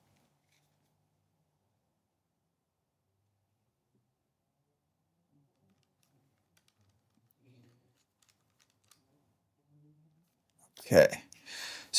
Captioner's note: silence